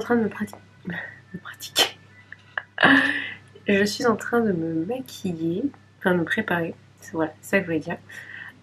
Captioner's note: laughs